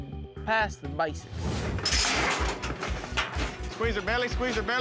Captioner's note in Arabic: صوت قعقعة المزلقة